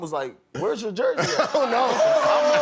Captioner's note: laughter